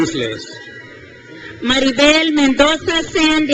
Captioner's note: crowd cheers